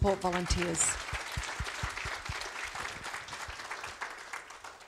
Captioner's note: audience applauds